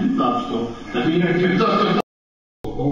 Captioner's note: laughs